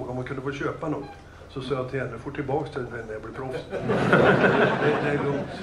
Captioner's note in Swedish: Skratt